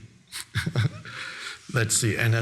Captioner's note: Eckhart laughing